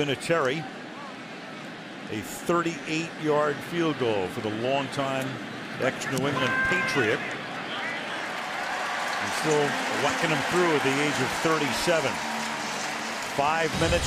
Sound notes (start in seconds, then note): 8.9 cheering